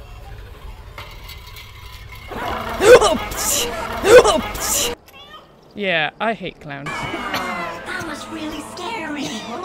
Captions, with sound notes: [jumpscare growl] [startled noises] "Yeah, I hate clowns."